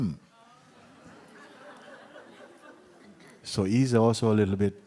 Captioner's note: laughter